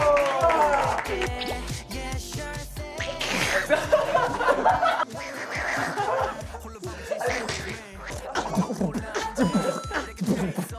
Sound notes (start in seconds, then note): 3.7 laughing; 9.0 beatboxing duck